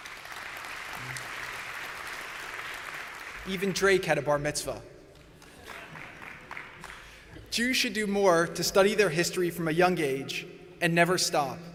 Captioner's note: applause